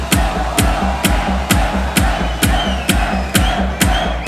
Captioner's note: crowd chanting; upbeat tech music